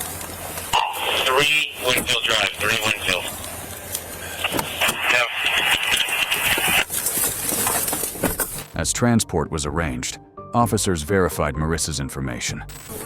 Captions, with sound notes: (Radio chatter) As transport was arranged, officers verified Marissa's information